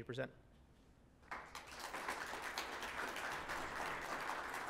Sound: audience clapping

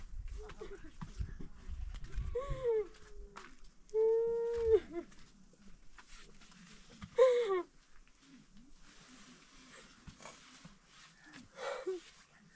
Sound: woman crying out of frustration

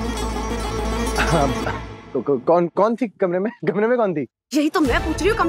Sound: clearing throat

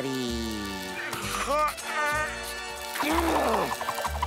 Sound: groaning

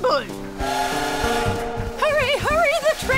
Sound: train whistles

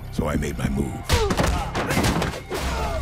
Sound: thuds and yelling

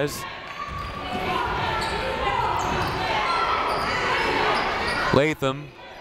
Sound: people shouting in the crowd

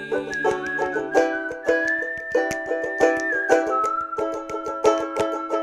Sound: questionable whistling refuses to die

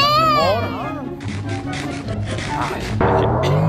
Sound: yelling

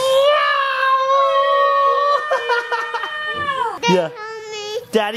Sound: yelling

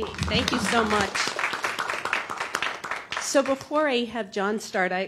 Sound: applause

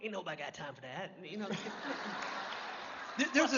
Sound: laughter

